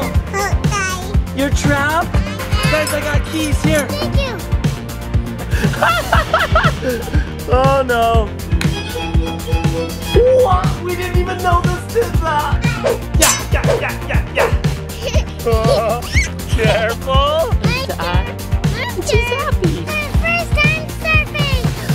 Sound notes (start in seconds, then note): 5.6 laughs; 8.5 classical music; 12.9 swoosh; 15.2 laughing